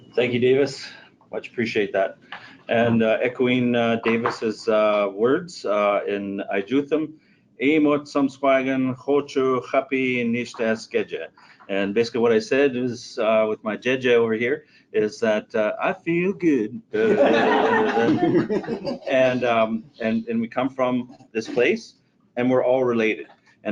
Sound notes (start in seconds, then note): 7.7 speaking in foreign language; 17.0 audience laughing